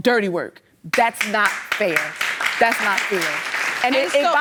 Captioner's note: audience clapping